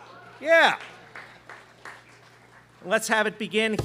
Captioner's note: students clapping